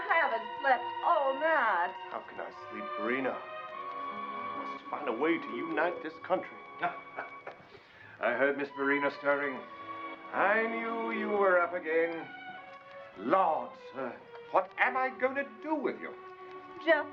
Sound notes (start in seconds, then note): 6.7 Popsy chuckling